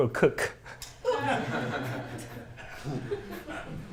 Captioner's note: laughter